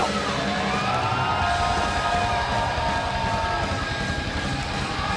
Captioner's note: crowd cheering